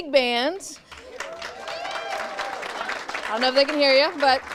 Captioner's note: audience cheers and applauds